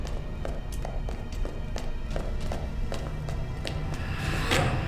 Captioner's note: footsteps echoing